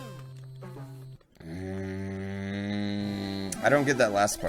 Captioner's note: frustrated moan